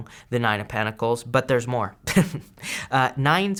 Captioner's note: he chuckles